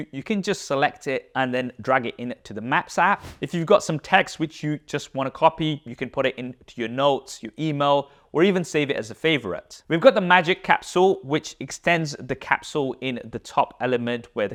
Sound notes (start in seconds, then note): 3.2 air whooshes